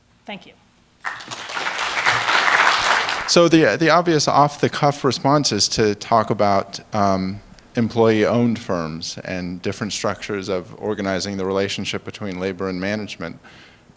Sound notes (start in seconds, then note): 1.0 applause